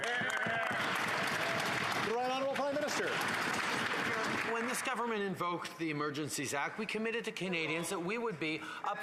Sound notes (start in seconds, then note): 4.1 applause